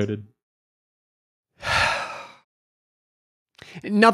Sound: sighs

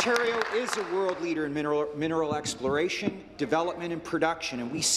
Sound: applause

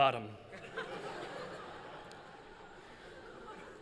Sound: laughter

